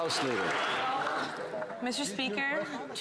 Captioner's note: some Applause